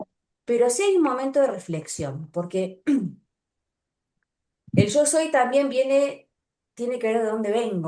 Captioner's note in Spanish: carraspeo